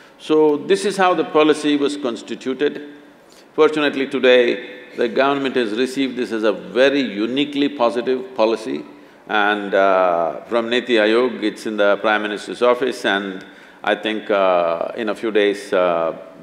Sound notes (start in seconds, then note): none